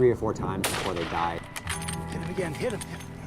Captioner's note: bullet casing tinkling; rifle shot booming